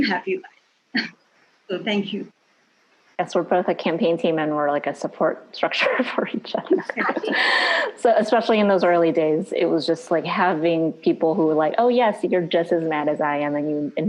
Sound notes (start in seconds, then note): 5.8 laughing